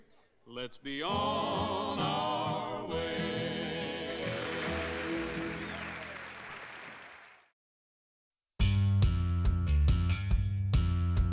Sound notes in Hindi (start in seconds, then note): 4.1 तालियाँ